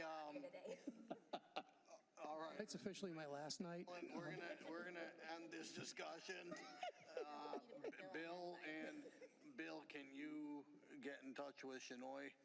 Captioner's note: laughter